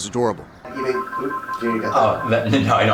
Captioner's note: phone rings